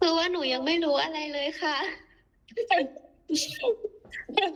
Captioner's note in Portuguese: risada